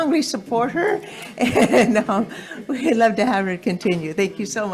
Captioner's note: laughs